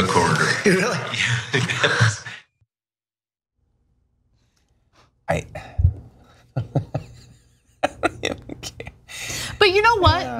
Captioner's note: laugh